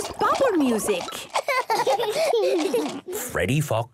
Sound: both laughing

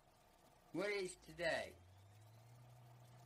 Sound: hissing from old cassette tape

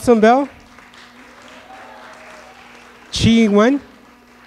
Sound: audience clapping

